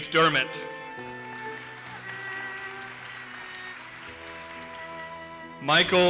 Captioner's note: audience applauses